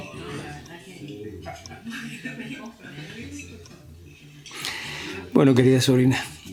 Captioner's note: chatter